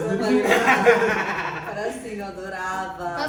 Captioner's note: laughs